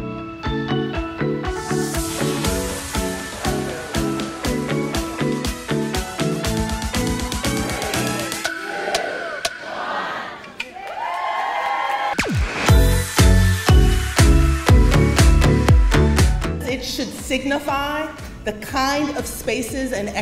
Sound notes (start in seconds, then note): 0.1 upbeat bouncy music; 10.8 crowd cheering; 12.1 upbeat electronic music